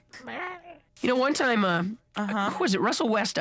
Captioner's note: baby gurgles